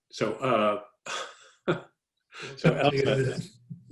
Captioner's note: laughing